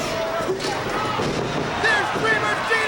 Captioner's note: bodies slamming